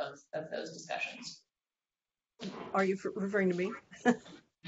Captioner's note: laughter